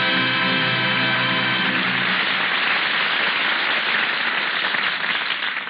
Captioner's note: audience applauds